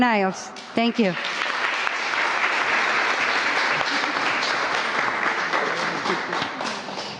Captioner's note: applause